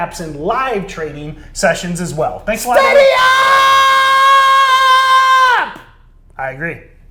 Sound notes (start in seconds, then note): 3.3 shouting